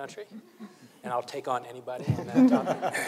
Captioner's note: panelists laughing; panelists chuckling